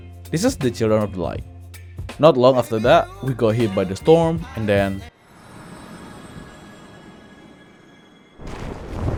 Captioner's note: crash